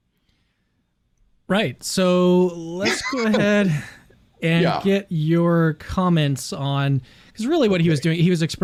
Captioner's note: chuckles